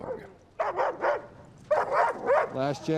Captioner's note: dog barking